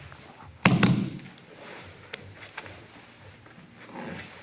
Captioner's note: strong tapping; soft shuffling